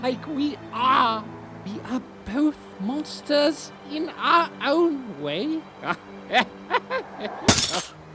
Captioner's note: laughs